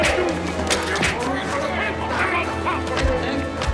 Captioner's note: speaking german